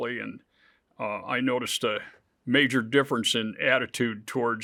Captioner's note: none